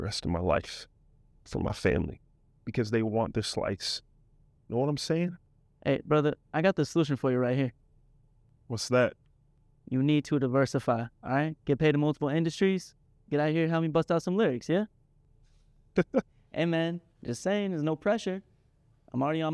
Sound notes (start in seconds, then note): 15.9 Jaylen laughs